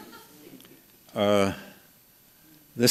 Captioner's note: laughs